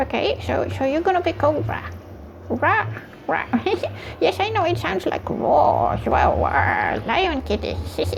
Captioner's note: giggles